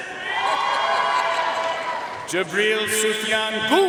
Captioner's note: audience cheering and applauding